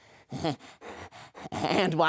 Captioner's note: breathes